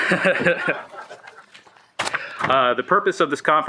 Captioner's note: laughing